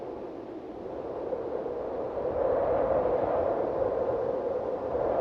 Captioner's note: wind howling continues